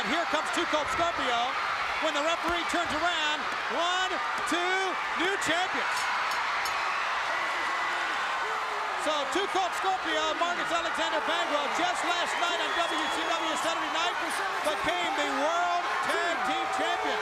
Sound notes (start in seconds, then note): 6.6 bell ringing; 7.4 crowd cheering